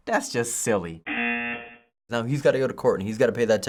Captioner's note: buzzer